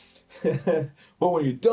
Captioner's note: laughs